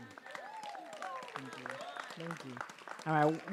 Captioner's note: audience cheering and applauding